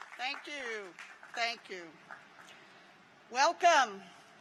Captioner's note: applause